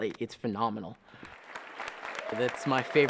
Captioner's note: applause